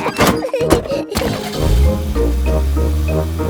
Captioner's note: laughing; car engine starts